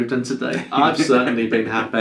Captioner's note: laughs